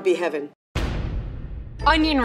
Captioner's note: thunk